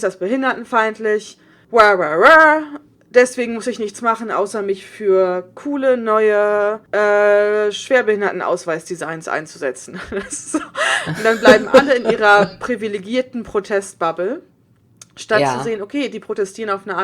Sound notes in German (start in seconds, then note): 9.9 sarkasmus; 10.2 beide lachen